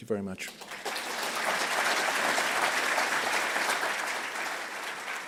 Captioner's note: audience applauds